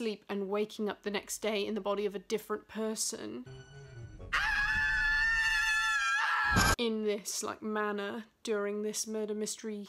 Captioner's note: screaming